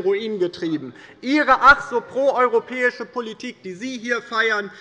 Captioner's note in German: none